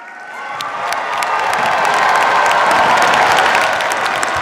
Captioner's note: cheers, applause